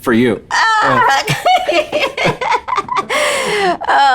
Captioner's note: laughing